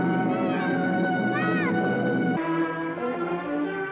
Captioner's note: girI yeIIing